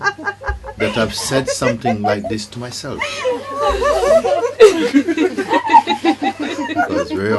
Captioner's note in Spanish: risas